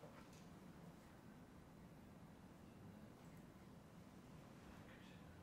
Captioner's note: none